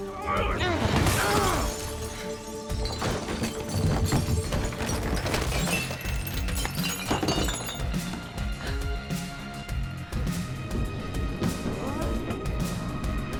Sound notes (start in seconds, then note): 0.6 bottles shatters